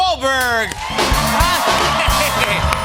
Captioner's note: cheers and applause